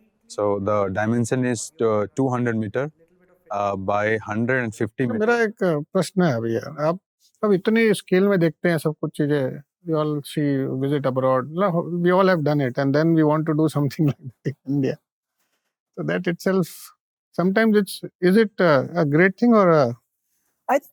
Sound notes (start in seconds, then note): 5.9 speaking in Hindi